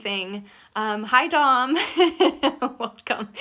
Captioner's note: laughing